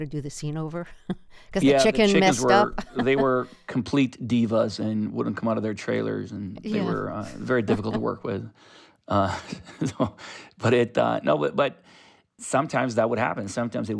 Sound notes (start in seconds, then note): 6.8 laughter